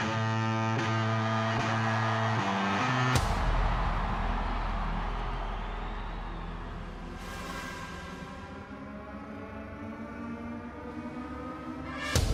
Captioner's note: crowd cheering